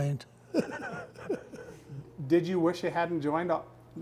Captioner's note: laughs